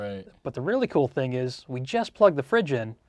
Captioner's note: laughs